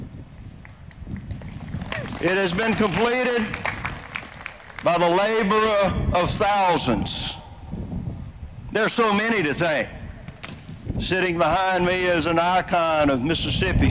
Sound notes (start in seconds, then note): 3.2 applause